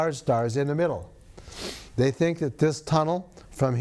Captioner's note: sniffs